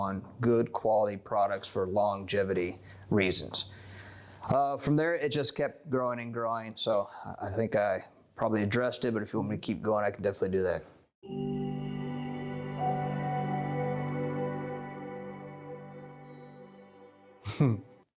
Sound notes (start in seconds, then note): 11.2 chime Sound; 17.2 laugh